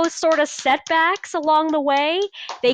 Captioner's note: clapping